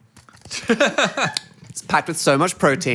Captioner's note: Phil laughs